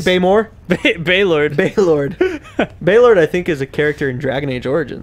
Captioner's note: laughing